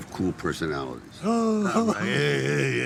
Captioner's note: giggles